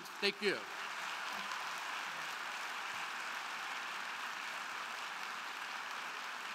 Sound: crowd cheering; crowd clapping

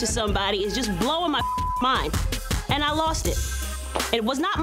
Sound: beep

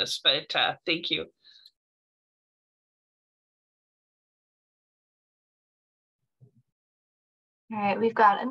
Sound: silence

